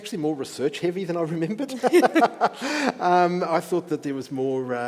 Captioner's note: laughs